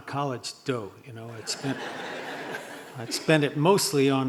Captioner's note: audience laughing